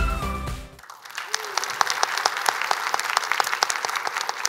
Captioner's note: appaluse